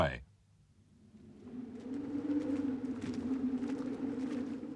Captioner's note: wind howling